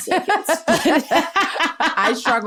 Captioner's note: laughter